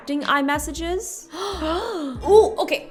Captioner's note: both gasp